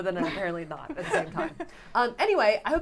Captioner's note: giggles